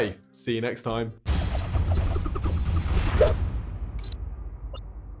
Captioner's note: logo whooshing